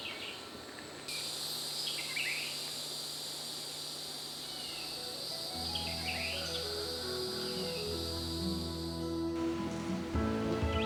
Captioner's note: birds chirping